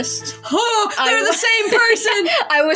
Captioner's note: laugh